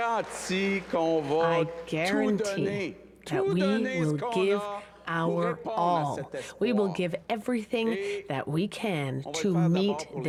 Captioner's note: cheers and applause